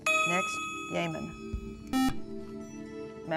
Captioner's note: buzzer